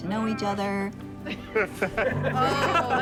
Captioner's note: all laughing